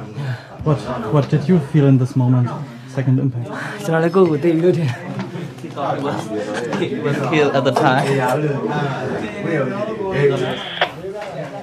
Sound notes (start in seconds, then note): 5.7 voices in the background